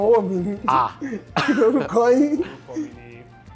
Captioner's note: laughs